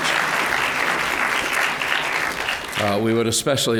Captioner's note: applause